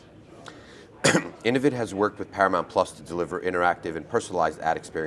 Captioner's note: cough